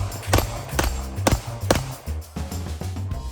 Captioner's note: gun popping; upbeat music